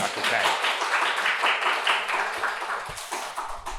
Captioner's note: applause